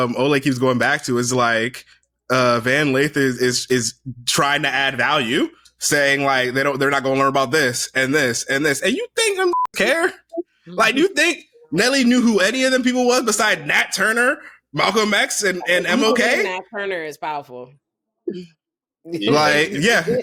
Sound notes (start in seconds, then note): 9.4 beep